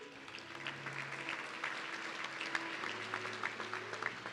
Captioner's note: audience clapping